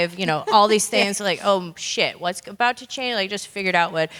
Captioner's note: laugh